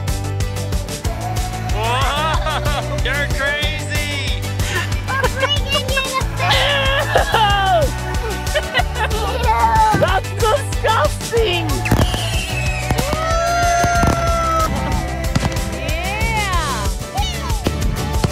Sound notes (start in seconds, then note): 4.7 laughter; 4.7 little girl babbling; 11.8 fireworks